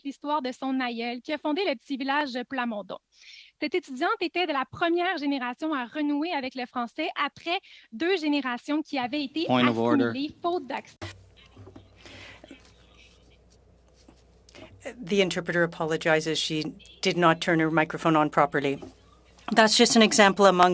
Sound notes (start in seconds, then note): 0.1 speaking French